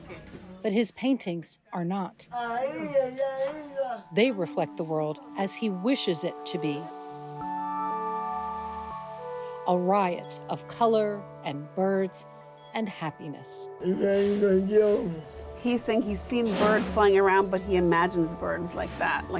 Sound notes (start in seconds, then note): 2.4 speaking in foreign language; 7.1 gentle music; 13.9 speaking in foreign language